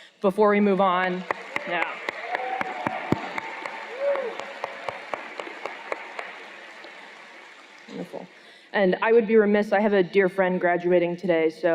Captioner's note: cheers and Applause